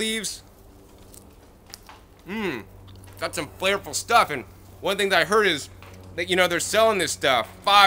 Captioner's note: chewing